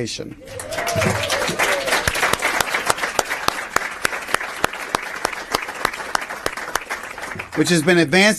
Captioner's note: applause